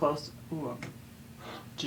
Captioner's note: tapping sound